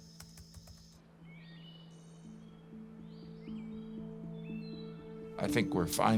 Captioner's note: birds chirping